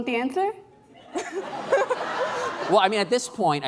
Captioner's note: laughing